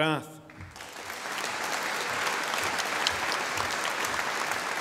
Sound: audience applauding

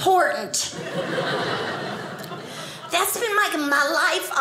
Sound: audience laughing

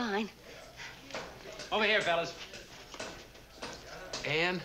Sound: none

